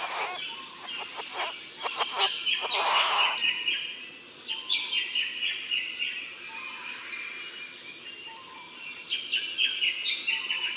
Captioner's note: bowerbird sounds